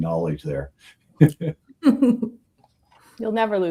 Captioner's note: laughing